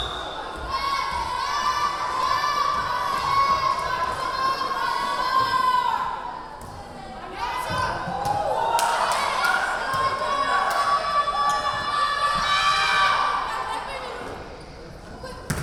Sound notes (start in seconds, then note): 0.0 whistle blowing; 2.9 yelling; 8.2 yelling